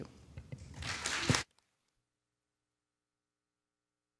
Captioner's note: everyone clapping